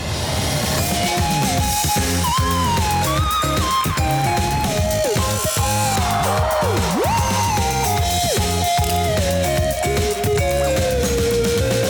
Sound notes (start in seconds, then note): 1.6 applause; 4.6 surprised audience; 4.7 angle grinder